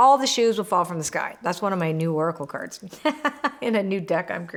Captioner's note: laughs